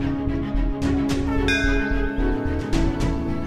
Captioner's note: bell ringing